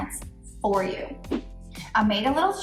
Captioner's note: air whooshes